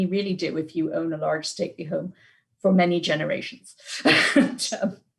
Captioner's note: laughs